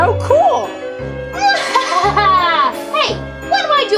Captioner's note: laughs